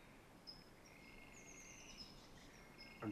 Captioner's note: bird chirp